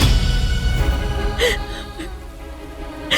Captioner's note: sobbing